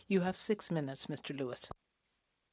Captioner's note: speaking French